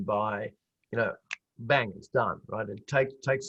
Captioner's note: fingers clicking